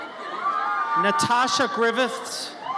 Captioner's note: audience cheers